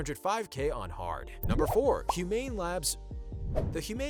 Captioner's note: bubble pop